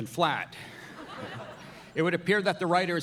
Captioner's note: audience laughing